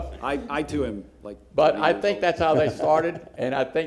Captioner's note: laughter